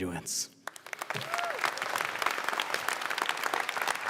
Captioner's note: applause